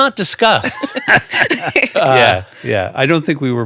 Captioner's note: everyone laughing